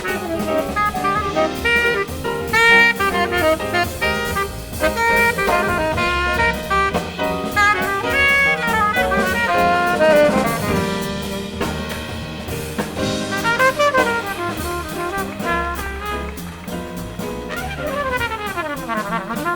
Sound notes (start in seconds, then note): 13.5 smooth jazz music; 15.5 audience applauds